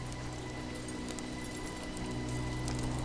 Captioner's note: horses galloping